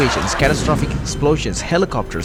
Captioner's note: catastrophic explosions